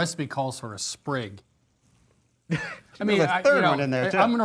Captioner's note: laughs